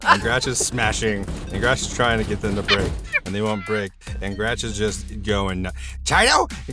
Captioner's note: laughs